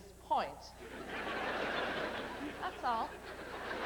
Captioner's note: laughter